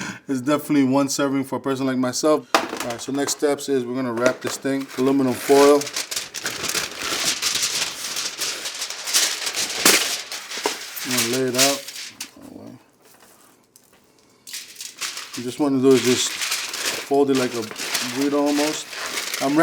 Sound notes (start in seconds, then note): 6.4 aluminum crinkling; 9.9 aluminum rips